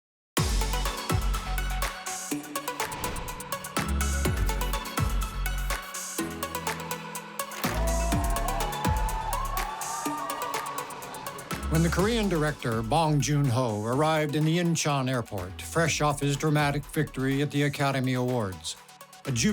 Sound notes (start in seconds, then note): 0.3 upbeat music; 7.6 crowd cheering